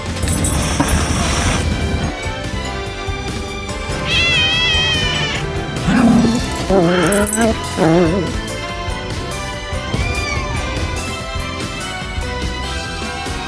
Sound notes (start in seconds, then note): 0.0 hisses; 3.9 meows; 4.0 growls; 10.0 meows